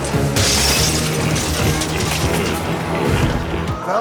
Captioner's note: glass shatters